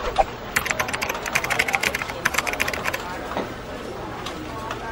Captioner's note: keyboard typing